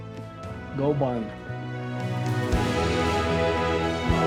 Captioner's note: Tector speaks faintly; triumphant music